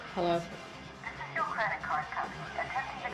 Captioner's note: recorded Voice